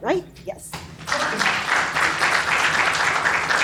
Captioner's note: applause